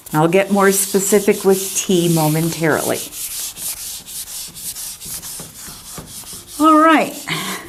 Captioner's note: eraser wiping board